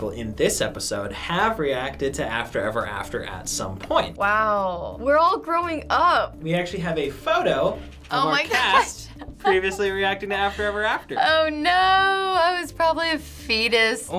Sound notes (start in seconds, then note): 8.6 laughs